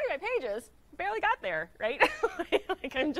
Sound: laughs

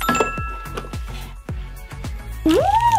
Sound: ding

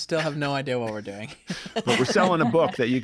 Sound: laughter

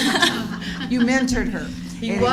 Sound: laughing

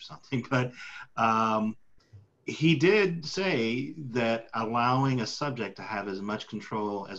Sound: laughs

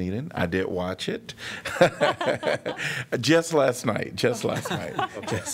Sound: laughter

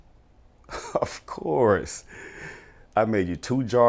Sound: laughs

